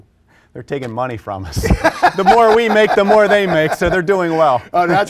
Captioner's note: laughter